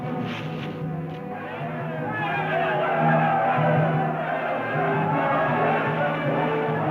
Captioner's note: drum beating; tribesmen chanting